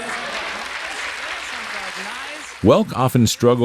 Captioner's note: loud applause